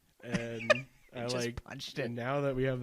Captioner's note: laughs